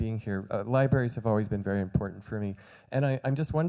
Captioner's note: none